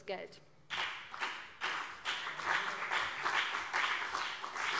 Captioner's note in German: Beifall BÜNDNIS 90/DIE GRÜNEN und CDU